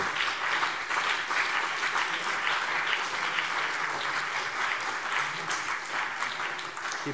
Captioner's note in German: Beifall BÜNDNIS 90/DIE GRÜNEN und CDU